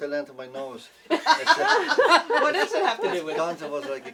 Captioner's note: laughing